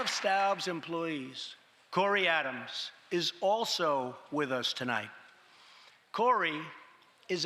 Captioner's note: applause